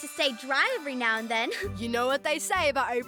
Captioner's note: chuckles